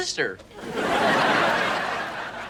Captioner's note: laughs